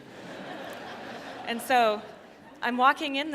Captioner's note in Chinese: 笑聲